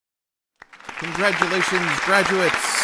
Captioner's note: audience applauding